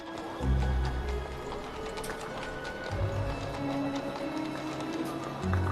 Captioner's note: street chatter